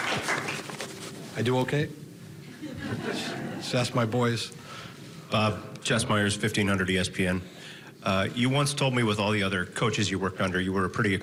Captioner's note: applause